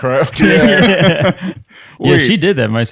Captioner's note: laughter